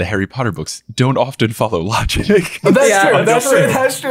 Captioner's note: chuckling